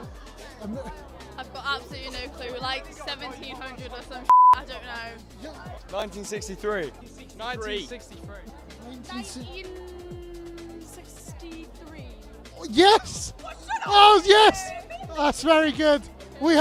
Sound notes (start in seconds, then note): 4.3 beep